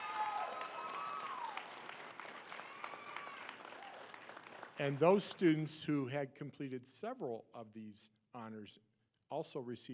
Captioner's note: applause